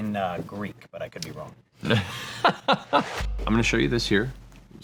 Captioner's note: laughs